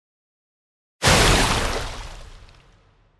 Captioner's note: splash